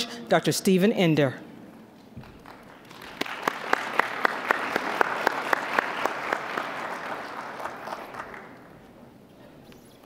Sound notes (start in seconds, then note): 2.2 applause